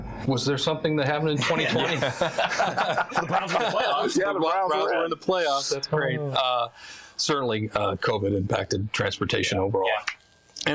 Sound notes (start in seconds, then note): 1.4 all laughing